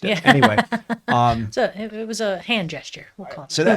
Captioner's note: laughs